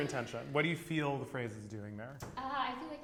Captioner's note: laughs